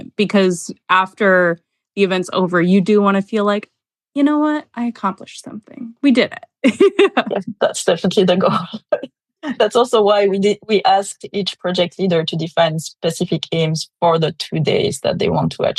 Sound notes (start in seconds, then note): 6.6 laughter